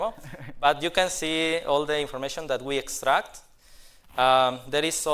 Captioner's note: laughter